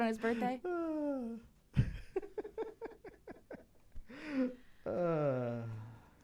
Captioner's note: Fraug laughing in "that's a wild misreading of the text"